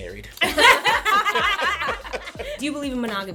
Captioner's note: laughter